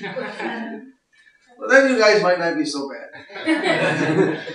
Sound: laughter

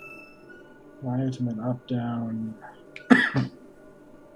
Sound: coughs

